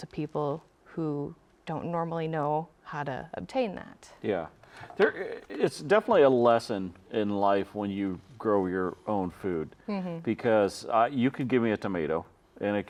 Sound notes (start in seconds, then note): none